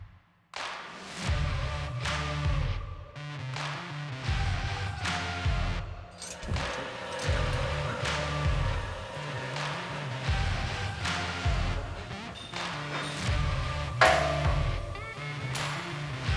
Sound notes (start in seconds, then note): 8.3 machines whirring; 13.3 metal clinking